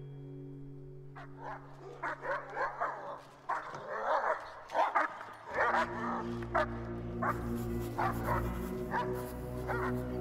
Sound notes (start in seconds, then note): 1.1 dogs barking; 5.1 ominous music